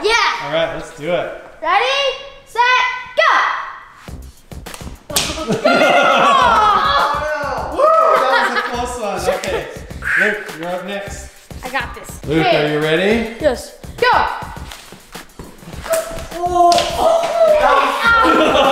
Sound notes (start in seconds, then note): 4.1 upbeat music; 5.2 all laughing